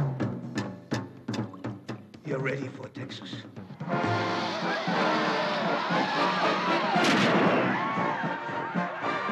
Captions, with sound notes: You're ready for Texas. - [marching band playing] - [crowd cheering]